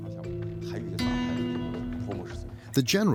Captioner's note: speaking in foreign language